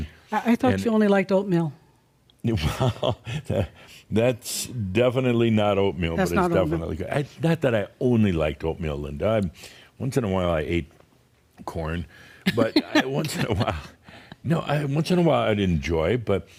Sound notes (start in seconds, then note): 2.5 chuckles; 12.5 they chuckle